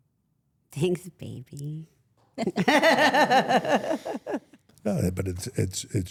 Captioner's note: everyone laughs